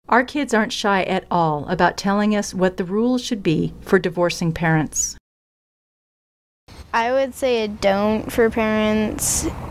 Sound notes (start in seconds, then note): 7.0 kids talking off-screen